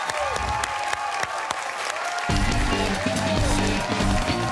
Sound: cheers and applause

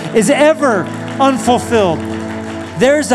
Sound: applause

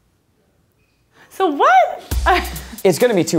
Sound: laughs

